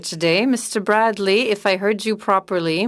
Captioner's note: speaking French